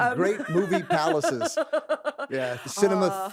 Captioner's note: laughs